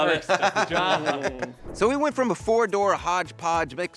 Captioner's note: Drew laughs